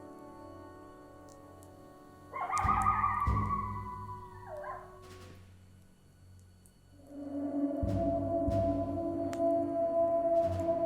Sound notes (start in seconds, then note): 2.5 coyotes howling; 6.8 eerie distant howl